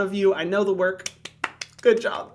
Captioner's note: claps